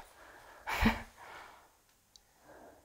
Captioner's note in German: Angespanntes Lachen